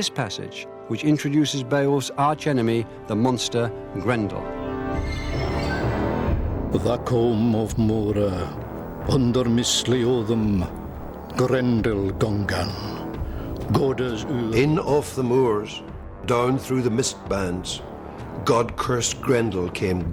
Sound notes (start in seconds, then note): 8.7 man speaking Old English